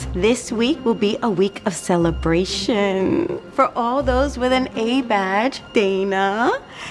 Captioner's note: none